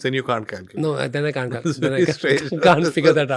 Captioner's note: laughs